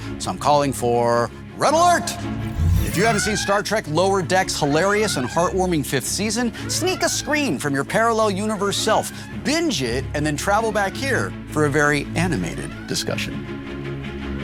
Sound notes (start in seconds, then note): 1.9 siren blaring